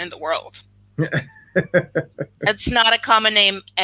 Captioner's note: laughs